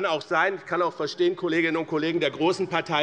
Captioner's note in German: none